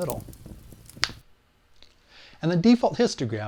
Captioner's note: finger snap